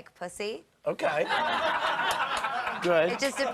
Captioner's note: laughter